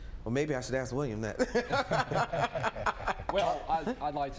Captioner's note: laughs